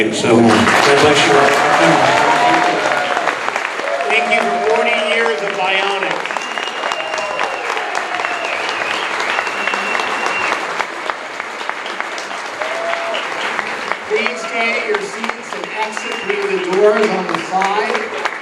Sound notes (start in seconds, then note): 2.4 audience applauding; 6.6 audience cheering